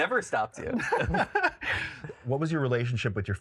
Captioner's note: both laugh